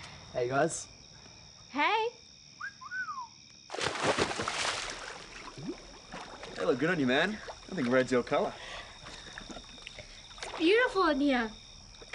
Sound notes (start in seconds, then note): 2.6 whistling; 3.7 water splashing